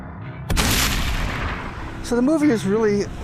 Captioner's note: gunshot